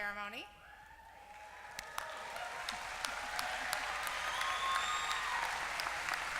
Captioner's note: applause